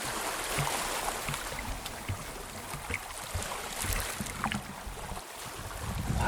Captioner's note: sea splashing sounds